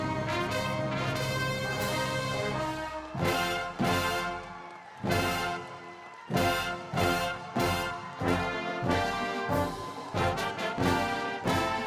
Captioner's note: cheers and Applause